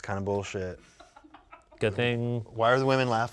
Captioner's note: crew laughs